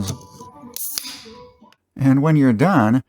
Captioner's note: beer opening sound